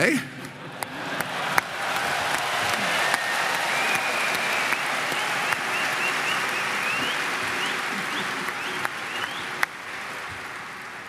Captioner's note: Applause; 掌聲